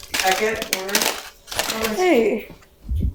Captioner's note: sound of wrappers rustling